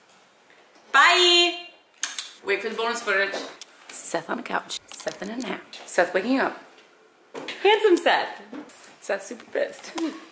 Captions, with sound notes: Bye! (blowing kisses) - Wait for the bonus footage. - Seth on the couch. Seth in a nap. Seth waking up. Handsome Seth! Seth's super pissed.